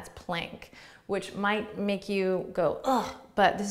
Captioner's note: makes sound of disgust